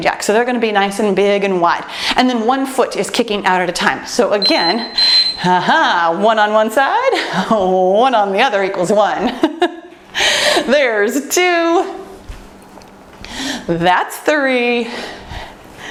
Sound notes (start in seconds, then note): 4.4 timer beeps; 9.6 laughs